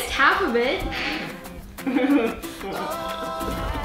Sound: laughing

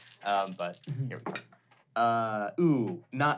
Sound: rolling dice

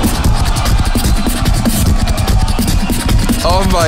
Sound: crowd and judges cheering

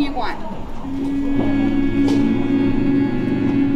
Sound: everyone hums

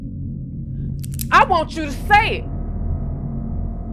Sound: cocks Gun Hammer

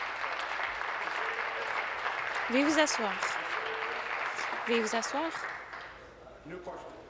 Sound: applause

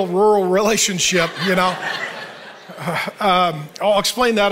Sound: audience laughing

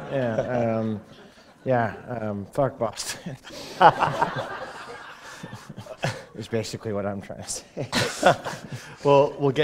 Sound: chuckle

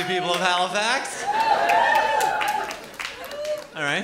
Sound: scattered whooping

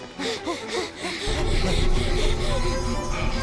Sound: all breathing heavily

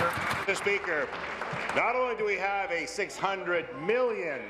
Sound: applause

